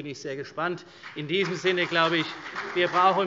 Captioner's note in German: Beifall CDU